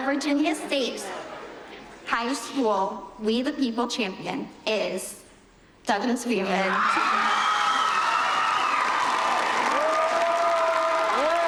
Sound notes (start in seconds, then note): 8.5 cheers and applause